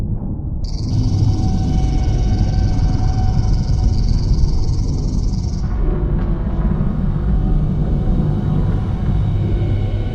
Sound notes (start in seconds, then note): 0.6 Sonic screwdriver buzzes; 5.6 thunder